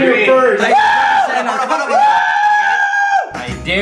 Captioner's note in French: acclamations